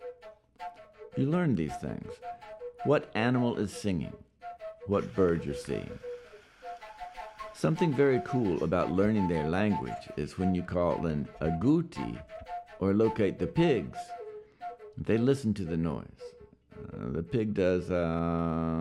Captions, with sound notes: You learn these things. What animal is singing, what bird you're seeing. Something very cool about learning their language is when you call an (speaks Yanomami) or locate the pigs, they listen to the noise the pig does.